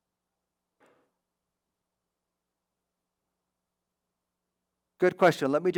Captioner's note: silence